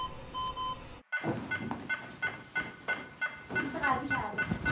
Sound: heart Monitor Failure sound

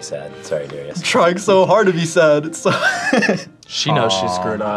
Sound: laughs

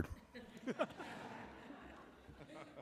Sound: laughing

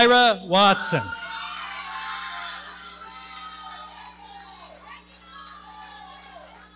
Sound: audience cheering

